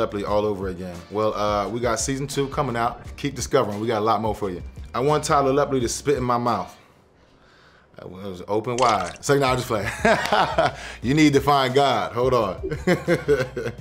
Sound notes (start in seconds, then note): 8.0 stammering; 9.9 laughing; 12.8 laughing